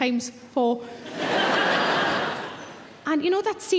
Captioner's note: audience laughing